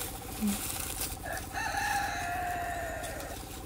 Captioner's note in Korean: 백구 울음소리